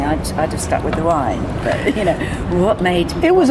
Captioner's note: both laugh